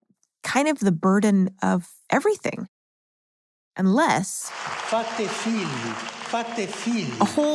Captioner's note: ARCHIVE CLIP: Pope speaking Italian